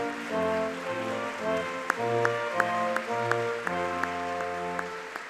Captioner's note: audience clapping